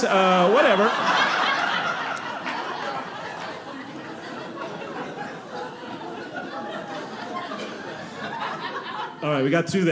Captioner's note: audience laughing